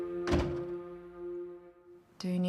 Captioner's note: dramatic orchestral music continues; door clicking